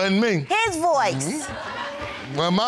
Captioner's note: audience laughs